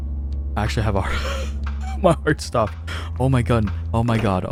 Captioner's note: wheeze